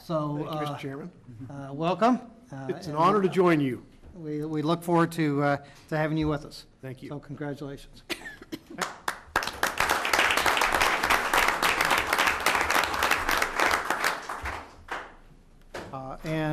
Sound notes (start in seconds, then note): 14.0 applause